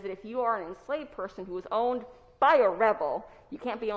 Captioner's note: none